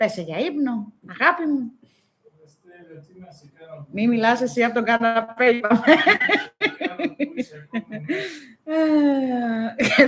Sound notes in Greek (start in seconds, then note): 5.7 γέλια